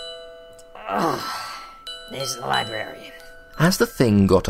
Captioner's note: groan